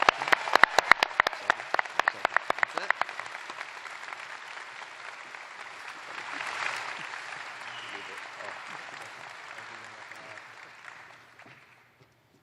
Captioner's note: applause